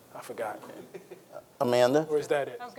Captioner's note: panelist chuckles